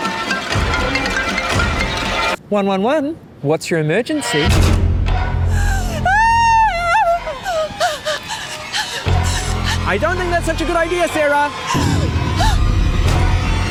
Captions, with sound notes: - 111. What's your emergency? - (SCREAMS) - I don't think that's such a good idea, Sarah!